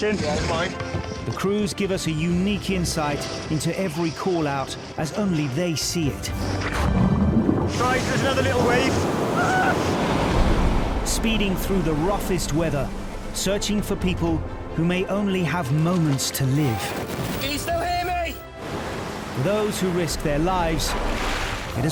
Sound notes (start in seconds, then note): 7.0 water gurgles; 9.4 water crashes